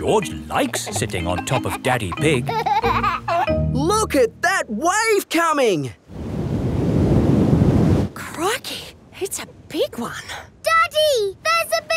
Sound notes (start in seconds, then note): 2.9 giggling